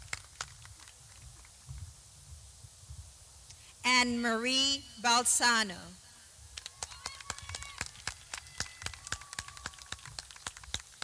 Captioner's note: clapping